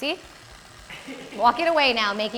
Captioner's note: off-screen laughter